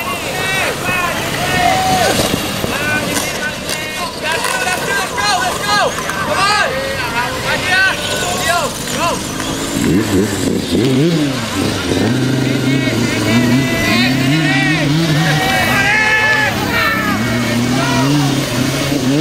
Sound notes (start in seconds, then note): 10.3 motors accelerate; 14.6 crowd cheers